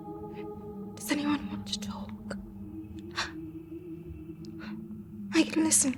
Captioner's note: gasps